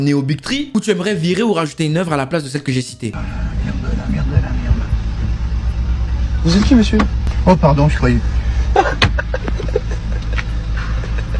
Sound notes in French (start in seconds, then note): 3.1 Bruit de moteur; 8.7 Rire